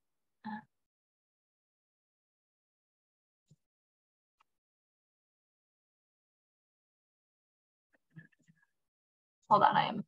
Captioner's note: silence